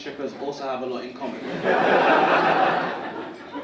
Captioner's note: audience laughing